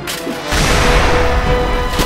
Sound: explosion

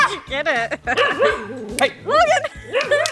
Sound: laughing; Logan barks

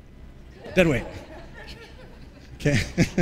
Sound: laughter

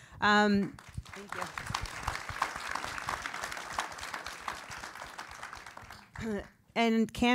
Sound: applause

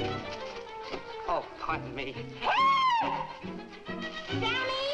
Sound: screams

